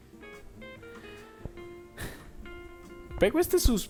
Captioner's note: sigh